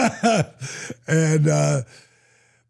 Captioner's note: Dallas laughs